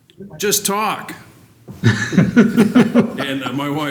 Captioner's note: laughter